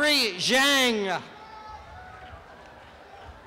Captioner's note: applause and cheering